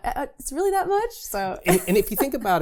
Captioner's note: laughs